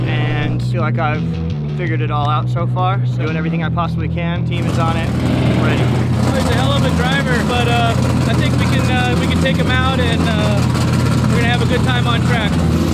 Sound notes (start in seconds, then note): 5.3 engine rumbling; 12.7 engine rumbling